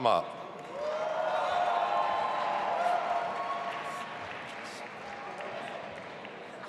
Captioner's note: audience applauding and cheering